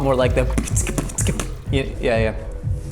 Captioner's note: beatboxing loudly